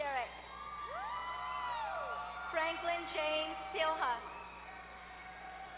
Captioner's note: applause